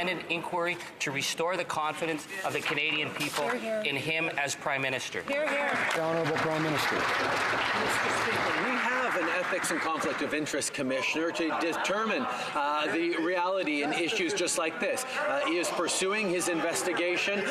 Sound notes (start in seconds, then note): 8.4 some Applause